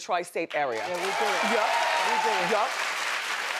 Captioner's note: audience cheering